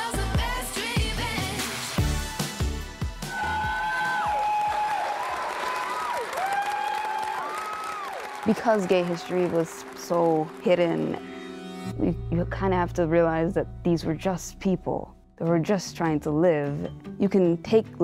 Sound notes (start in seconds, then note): 3.1 many people applaud & cheer